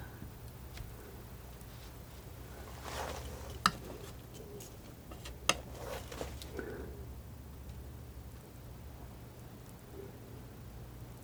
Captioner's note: tapping